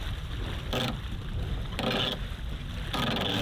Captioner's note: wind and windlass noise